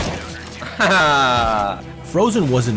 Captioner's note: laughs